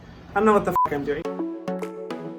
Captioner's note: beep; dance music plays